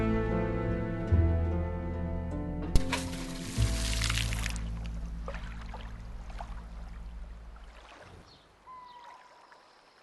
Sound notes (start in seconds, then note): 2.8 sloshing water